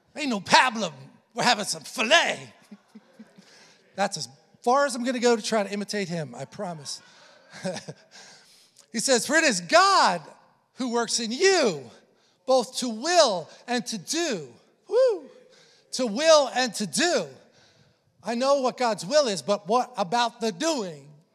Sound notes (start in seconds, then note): 7.2 congregation laughing; 7.4 chuckles